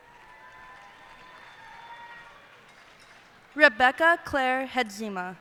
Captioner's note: cheers and applause